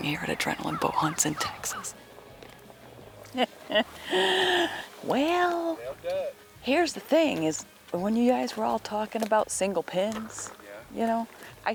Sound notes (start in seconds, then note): 3.3 laughing